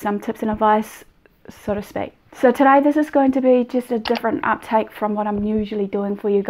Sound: animated subscribe button with mouse clicking along with the notification bell

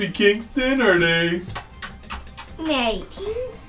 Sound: makes kissing sounds

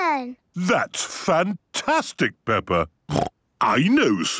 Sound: snorting; snorting

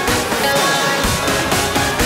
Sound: echo

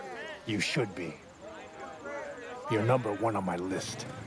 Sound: warriors shouting

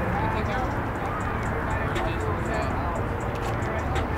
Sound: workers chatter; upbeat music

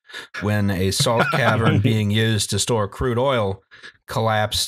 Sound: laughter

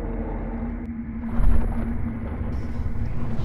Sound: water sloshing

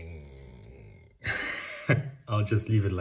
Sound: laughs

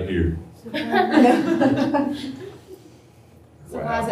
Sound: laughter

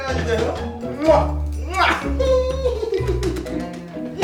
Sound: kissing sounds

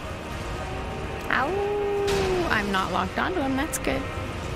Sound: mimics his awoo

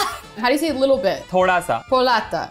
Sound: speaking in Hindi

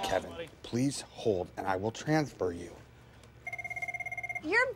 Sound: telephone rings

